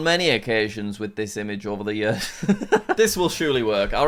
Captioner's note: laughs